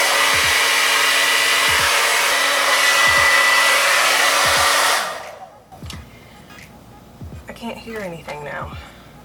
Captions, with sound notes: (turns off blow dryer) I can't hear anything now